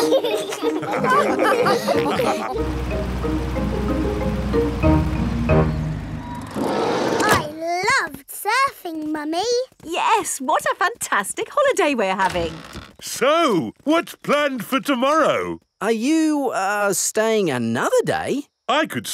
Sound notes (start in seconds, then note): 0.0 all laugh